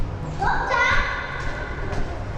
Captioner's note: child yelling